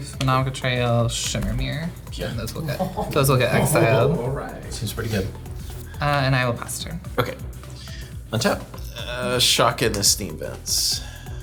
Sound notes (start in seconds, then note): 2.0 laughing